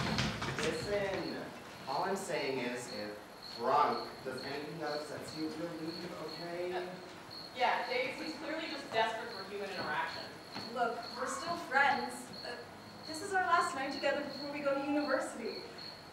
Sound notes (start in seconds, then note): 11.9 grasshoppers chirping